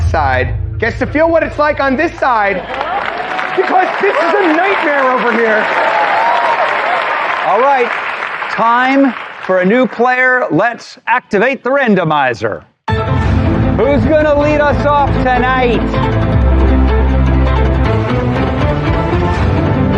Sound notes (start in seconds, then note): 5.5 cheering and applause; 12.5 dramatic music; 17.7 music builds